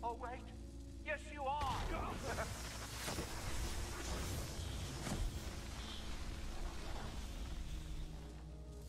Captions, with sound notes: Oh wait, yes you are! (grunting and crackling)